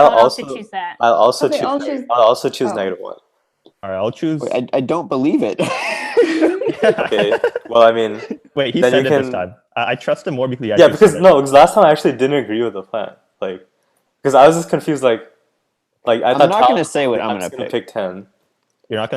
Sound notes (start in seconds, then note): 5.4 laughing